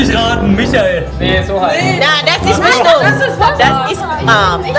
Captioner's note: speaking German